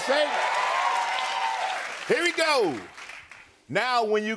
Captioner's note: cheers and applause